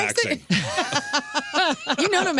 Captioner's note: laughing